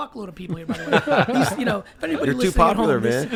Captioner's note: all laugh